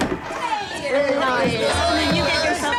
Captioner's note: everyone greeting